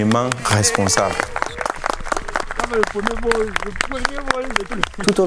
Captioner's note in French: applaudissements et félicitations